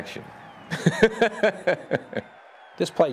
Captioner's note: laughs